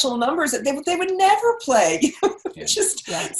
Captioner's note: laughs